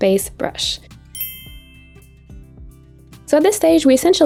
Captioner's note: bell pings